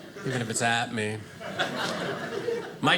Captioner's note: audience laughing